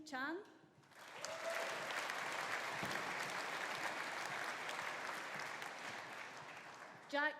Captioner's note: audience applauding; audience cheering